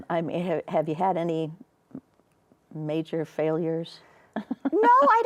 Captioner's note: chuckles